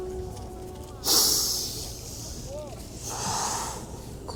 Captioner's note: sucking air